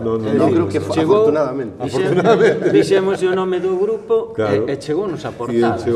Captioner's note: laughter